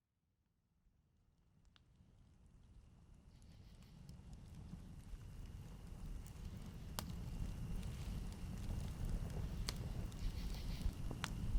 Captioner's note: A fire crackling. Night birds chirping